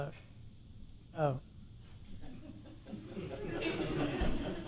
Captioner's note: people laughing